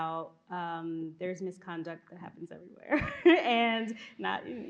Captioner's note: laughs